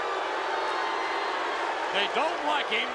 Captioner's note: audience booing